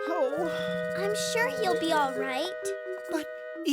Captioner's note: gasping